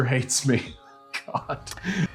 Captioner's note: chuckling